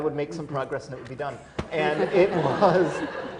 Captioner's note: laughter